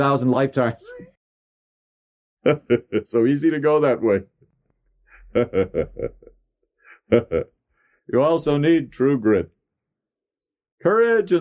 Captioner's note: laughs